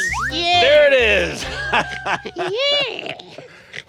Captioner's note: laughs